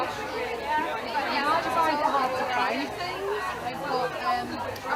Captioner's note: crowd chattering